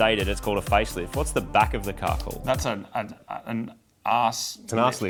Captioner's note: stammers